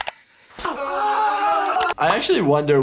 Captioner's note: Steve-o screams in pain